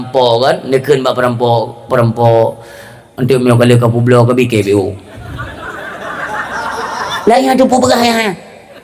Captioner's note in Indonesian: tertawa